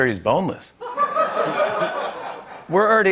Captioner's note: laughter